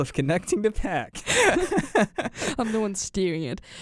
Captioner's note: both laugh